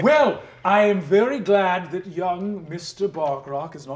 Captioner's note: none